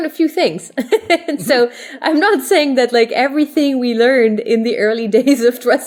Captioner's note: laugh